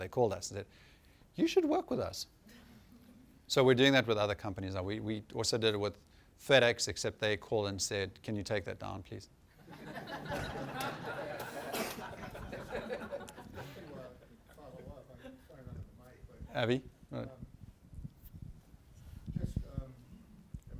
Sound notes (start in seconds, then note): 2.5 laughter; 9.5 laughter